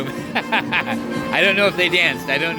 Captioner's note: laughing